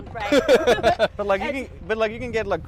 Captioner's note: laughs